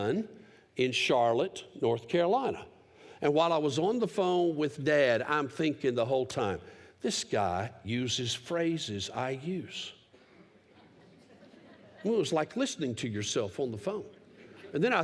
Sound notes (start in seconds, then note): 10.6 laughter